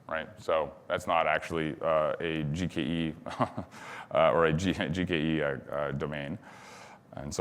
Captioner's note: chuckles